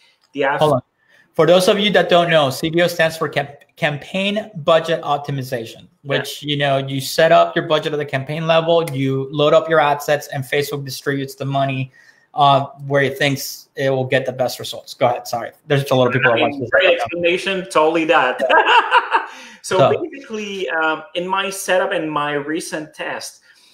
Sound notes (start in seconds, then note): 18.3 laughing